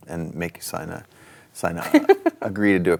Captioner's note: chuckles